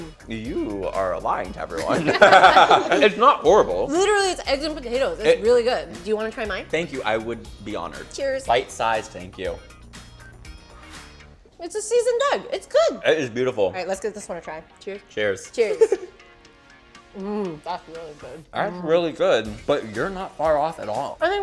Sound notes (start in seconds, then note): 1.7 laughing